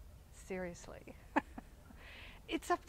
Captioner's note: chuckles